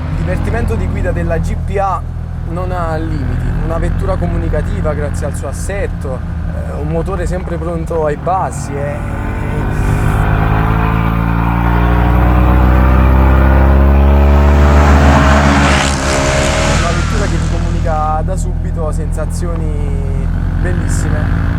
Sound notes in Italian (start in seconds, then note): 10.5 Motore della Giannini che si scatena